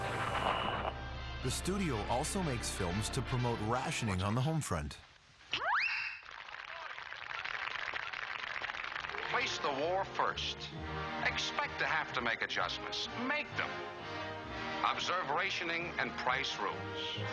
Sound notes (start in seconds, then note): 4.3 sharp whistle; 6.2 cheers and applause